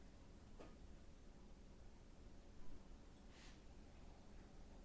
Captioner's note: none